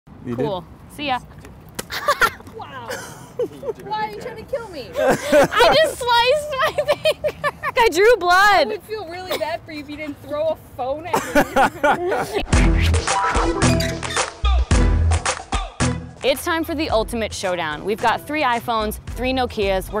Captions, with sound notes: - Cool. See ya. (laughter) I just sliced my finger! I drew blood! (laughter) (sign squeaking) It's time for the ultimate showdown. We've got three iPhones, three Nokias.